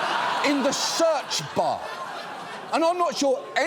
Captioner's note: audience laughing